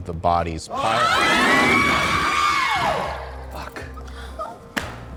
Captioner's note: group screaming